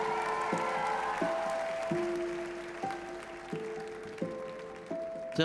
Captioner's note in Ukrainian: оплески